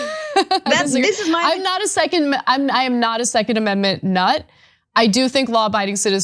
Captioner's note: laugh